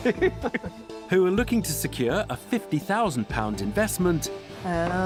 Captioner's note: laughs